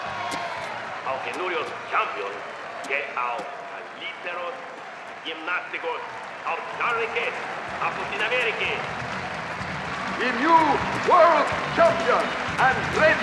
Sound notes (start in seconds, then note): 1.2 speaking spanish